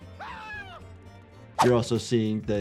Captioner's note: moose screaming